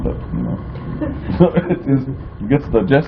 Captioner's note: laughter